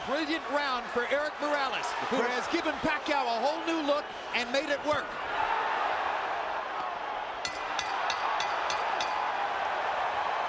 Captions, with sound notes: - THIS IS A BRILLIANT ROUND FOR ERIK MORALES, WHO HAS GIVEN PACQUIAO A WHOLE NEW LOOK AND MADE IT WORK. [BELL DINGS]